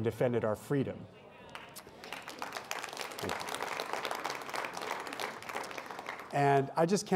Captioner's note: applause